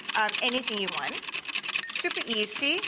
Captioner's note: whisk clattering